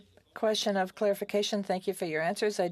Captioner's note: speaking French